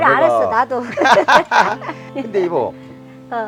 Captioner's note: both laughing